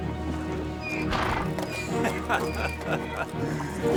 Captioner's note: tense music; donkey brays; laughs